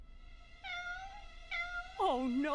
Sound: meowing

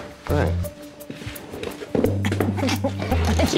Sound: chair scraping; laughs

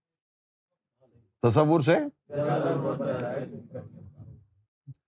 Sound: audience repeats

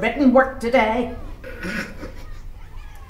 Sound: snigger

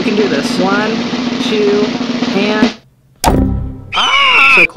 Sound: yells

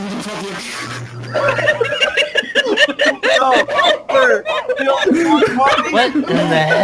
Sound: more laughter

